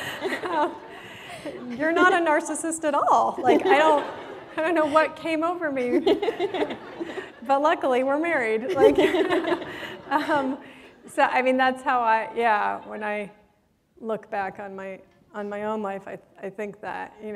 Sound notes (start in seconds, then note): 5.8 laughter; 8.6 laughter